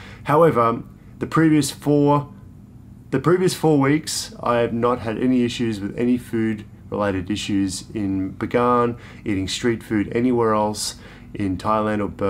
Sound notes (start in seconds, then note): none